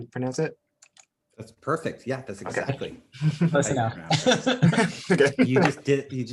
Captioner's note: laughs